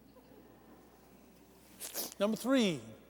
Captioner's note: laughter